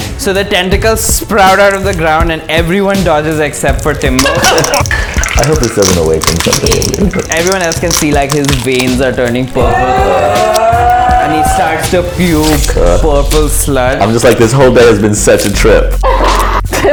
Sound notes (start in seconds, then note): 4.2 laughter; 9.6 groans; 16.0 laughter